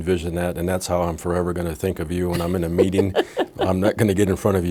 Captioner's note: laughing